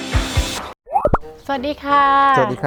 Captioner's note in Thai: เสียงเอฟเฟกต์